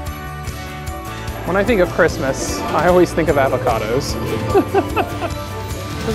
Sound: laughs

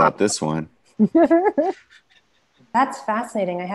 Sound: laughing

